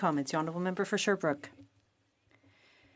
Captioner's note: speaking in French